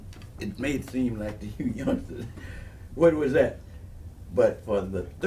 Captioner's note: giggles